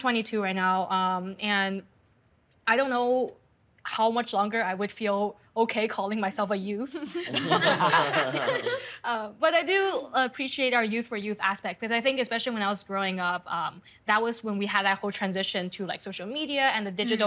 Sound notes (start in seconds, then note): 7.0 laughing